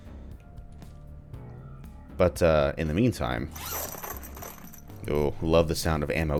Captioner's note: ammo clattering about